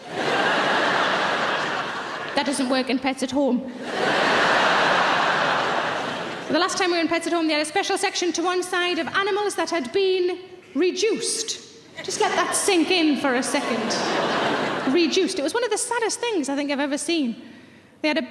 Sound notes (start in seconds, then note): 0.0 laughing; 3.8 laughing; 13.5 laughing